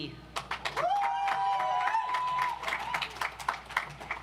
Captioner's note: audience applauds